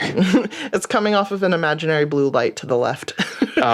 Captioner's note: laughs